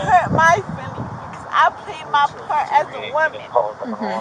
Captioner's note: radio chatter